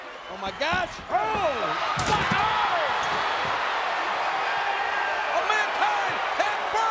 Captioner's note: crowd cheering